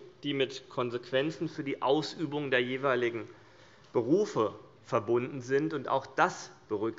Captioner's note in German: none